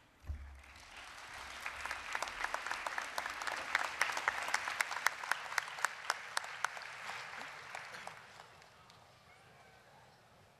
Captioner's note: applause